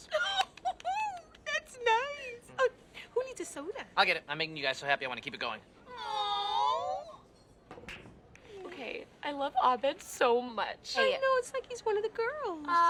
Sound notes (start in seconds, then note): 0.0 girls laugh; 5.8 girls awwww